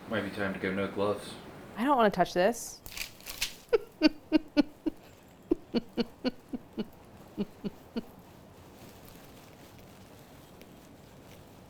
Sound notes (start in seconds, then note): 5.4 laughs